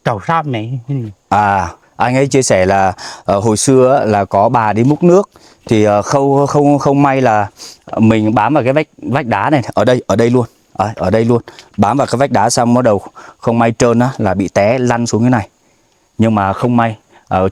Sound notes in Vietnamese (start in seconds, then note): 7.5 khịt mũi